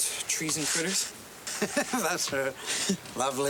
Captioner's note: chuckling